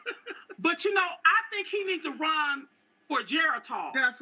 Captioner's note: laughter